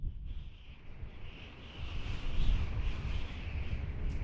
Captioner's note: wind whistling